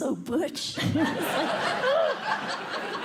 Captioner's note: laughter